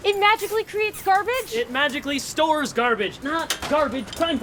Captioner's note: none